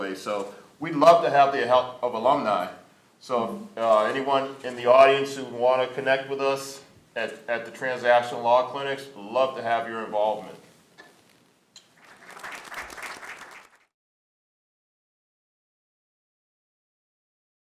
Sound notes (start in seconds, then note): 11.8 applause